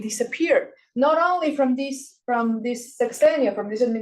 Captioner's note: speaking Spanish